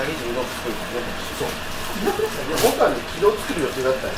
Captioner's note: laughs